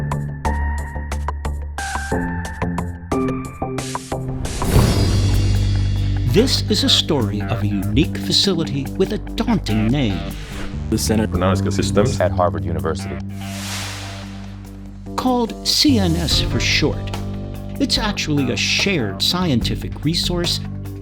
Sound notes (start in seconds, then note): 13.3 air whooshes